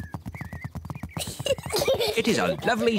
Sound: both giggling

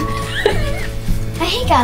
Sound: laughs

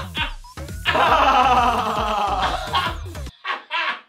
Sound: laughing

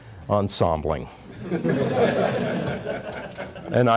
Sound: chuckling

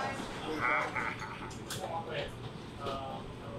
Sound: groans

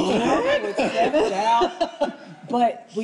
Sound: group laughing

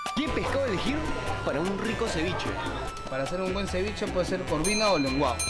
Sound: speaks in Spanish; lively music

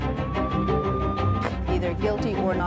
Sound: police siren

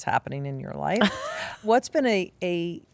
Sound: Kate laughs

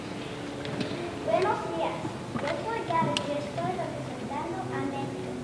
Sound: speaking in Spanish

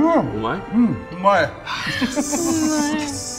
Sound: speaks in foreign language

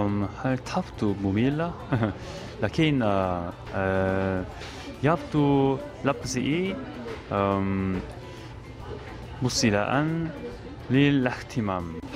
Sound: Arabic

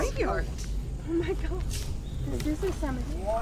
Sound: excitement/chatter

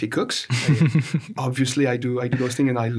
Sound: laughs

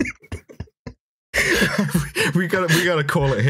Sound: laughter; laughter

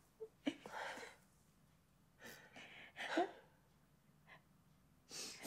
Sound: sobbs

